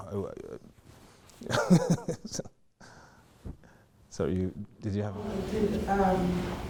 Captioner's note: laughing